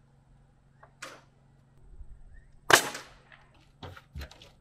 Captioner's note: nail gun firing